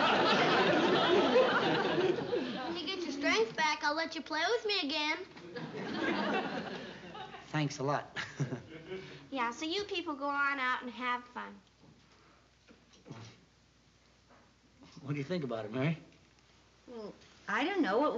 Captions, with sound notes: When you get your strength back, I'll let you play with me again. Thanks a lot. [CHUCKLES] Yeah, so you people go on out and have fun. Well, what do you think about it, Mary? Well, I don't know.